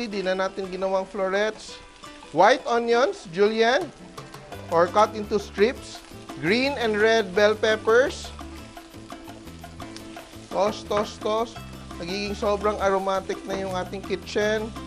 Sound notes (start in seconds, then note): 0.1 sizzle